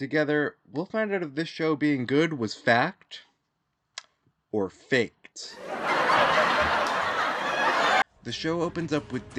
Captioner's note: laughter